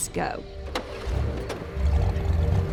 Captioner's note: engine starting